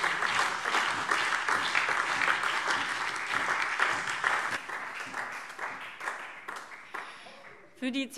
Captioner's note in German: Beifall DIE LINKE,vereinzelt CDU, BÜNDNIS 90/DIE GRÜNEN und SPD